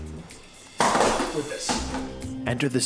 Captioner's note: camera case thuds